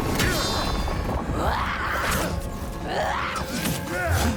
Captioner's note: grunting